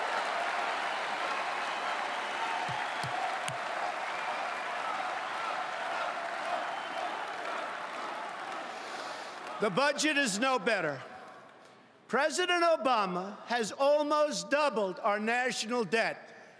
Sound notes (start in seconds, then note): 4.2 applause